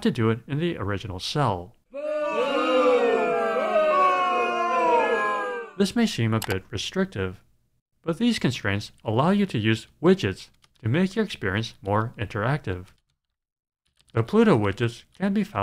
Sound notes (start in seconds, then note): 1.9 crowd booing